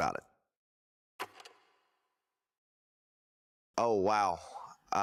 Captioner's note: film reel clicks